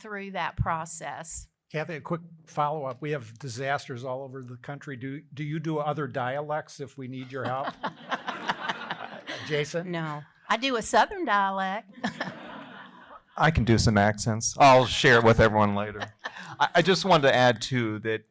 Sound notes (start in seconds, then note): 11.9 laughter